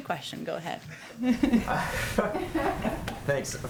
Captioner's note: laughter